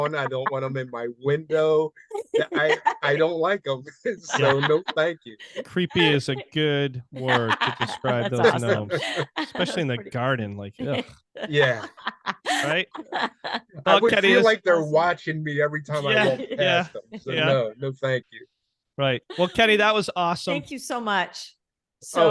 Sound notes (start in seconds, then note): 11.4 laughing loudly